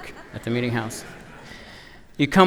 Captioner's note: laughter